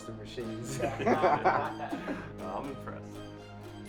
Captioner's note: men laughing